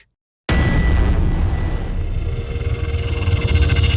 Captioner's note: hammer strike